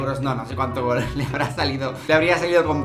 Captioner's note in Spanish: Risas